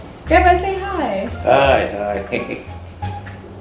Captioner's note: laughs